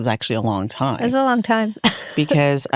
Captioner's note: chuckles